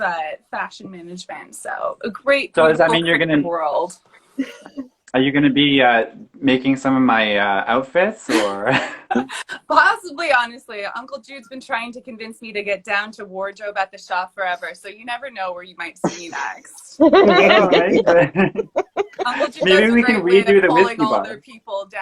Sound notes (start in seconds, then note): 17.0 laughing